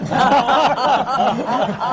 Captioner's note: laughter